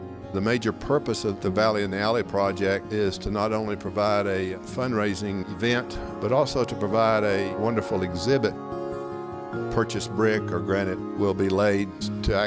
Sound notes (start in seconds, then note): none